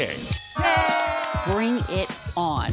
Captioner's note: cheering